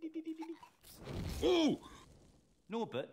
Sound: hagrid cooing; yells

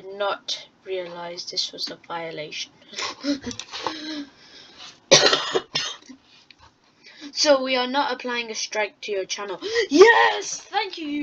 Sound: coughs

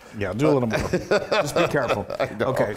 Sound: laugh

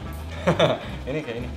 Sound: chuckles

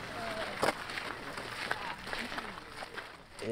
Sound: sound of footsteps on gravel

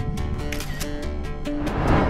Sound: photo clicks

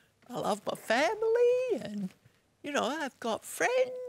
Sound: none

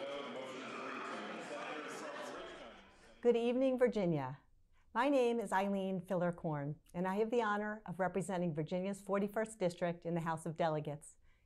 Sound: applause

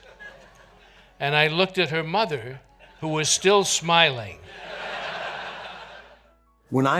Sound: audience laughter

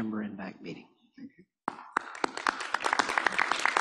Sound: applause

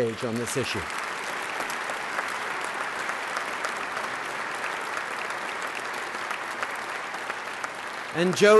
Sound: applause

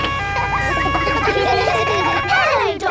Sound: kids laughing

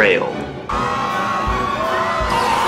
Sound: chaotic sound effects

